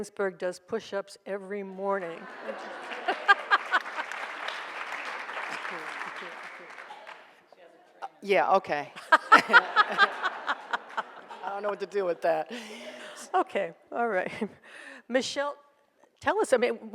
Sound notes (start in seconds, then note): 2.1 audience laughs and applauds; 9.0 laughs; 9.0 audience laughs